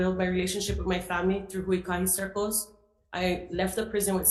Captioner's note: speaking foreign language